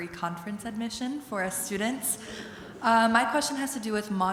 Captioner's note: audience chuckles